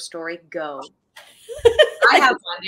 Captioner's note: laughing